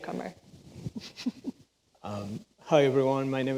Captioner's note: laughs